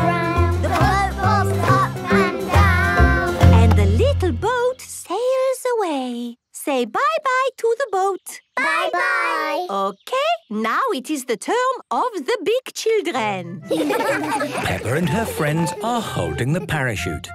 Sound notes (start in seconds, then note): 0.0 singing; 13.6 laughter